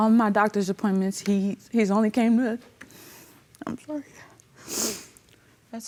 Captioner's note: voice breaking; sniffles